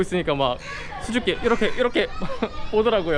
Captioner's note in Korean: ㅋㅋ